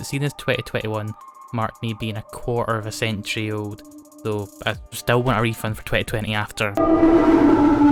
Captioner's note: distortion